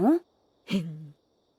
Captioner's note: snickers